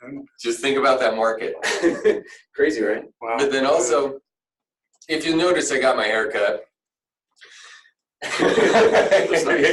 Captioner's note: laughter